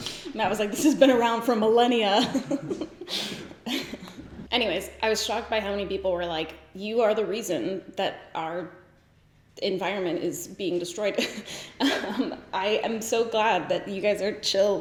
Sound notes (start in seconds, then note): 2.2 couple laughing; 11.2 giggling